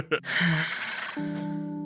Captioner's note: laughs; Epiphany sighs